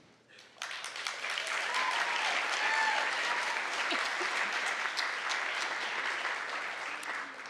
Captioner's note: applause